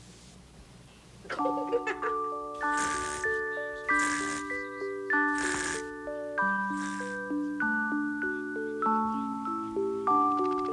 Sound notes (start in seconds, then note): 1.2 giggling; 3.0 snoring